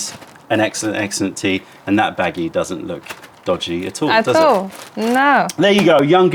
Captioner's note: shakes bag